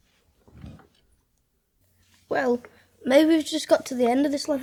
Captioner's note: none